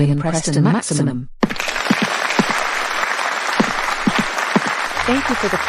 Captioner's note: student Applause